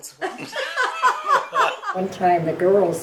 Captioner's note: laughing